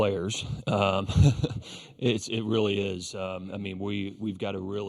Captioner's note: laughs